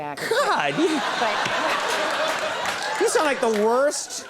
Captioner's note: audience laughing